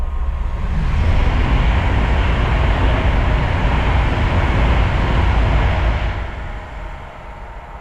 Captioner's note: sound of train passing overhead